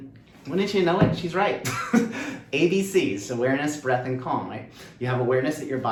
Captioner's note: laughter